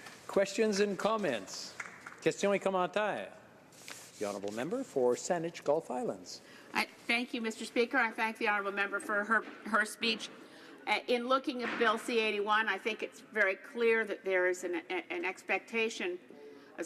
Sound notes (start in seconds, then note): 7.4 speaking French